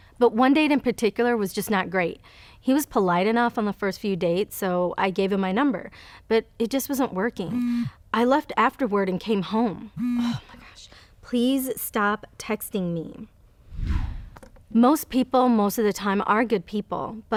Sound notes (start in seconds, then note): 7.5 phone buzzes; 10.0 phone buzzes; 13.7 message tone whooshes